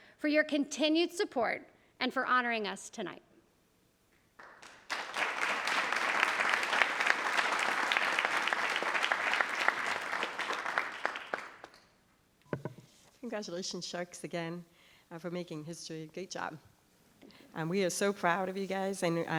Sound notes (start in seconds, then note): 4.4 attendees applauding